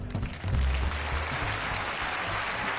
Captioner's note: audience applauding